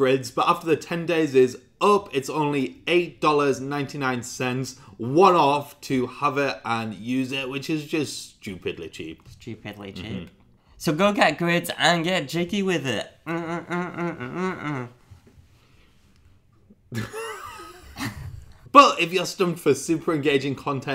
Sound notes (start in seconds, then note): 13.2 humming; 16.9 laughing